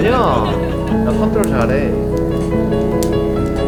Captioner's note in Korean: 후후